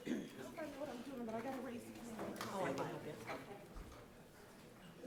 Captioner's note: background chatter